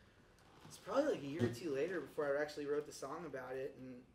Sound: none

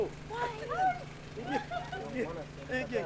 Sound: chuckles

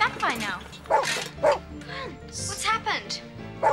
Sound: barking; barks

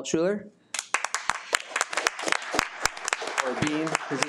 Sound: audience applauding

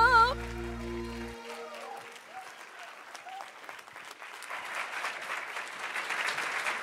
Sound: audience cheering; audience applauding

